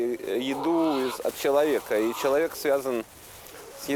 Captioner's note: bears cry